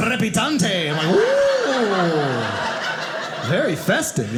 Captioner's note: audience laughing